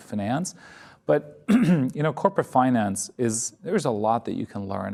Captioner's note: clears throat